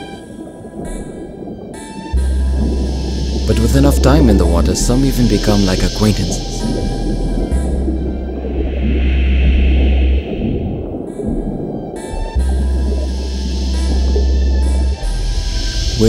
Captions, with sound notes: (somber music) But with enough time in the water some even become like acquaintances. (muffled underwater movements)